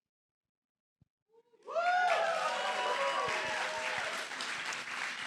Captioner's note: applause